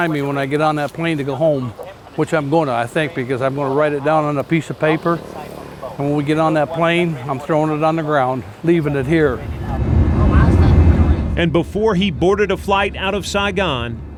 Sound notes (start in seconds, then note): 8.4 plane engine running